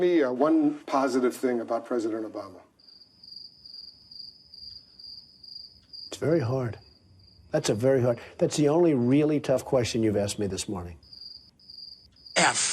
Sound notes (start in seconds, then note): 3.3 crickets chirping